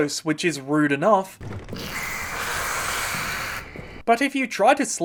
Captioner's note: rats hissing